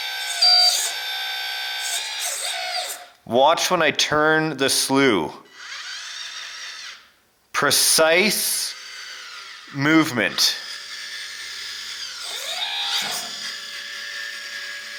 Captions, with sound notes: Watch when I turn the slew. Precise movement. (motor whirs)